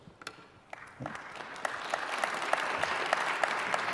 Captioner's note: audience applause